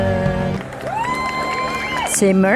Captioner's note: applause